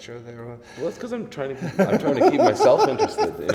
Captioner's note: laughs